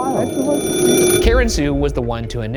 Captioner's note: phone ringing